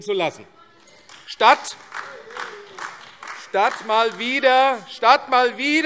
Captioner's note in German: Beifall AfD - Zurufe SPD und DIE LINKE